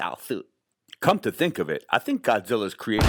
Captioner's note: bomb explosion booming